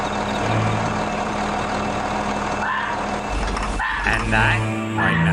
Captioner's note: fox calls